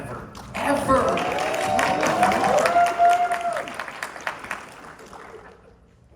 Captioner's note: cheers and applause